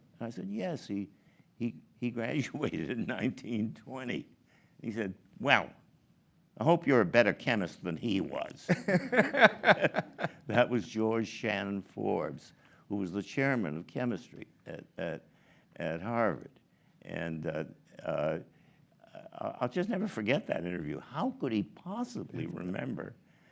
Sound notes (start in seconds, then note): 8.6 laughs